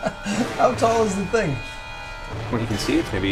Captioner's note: laughs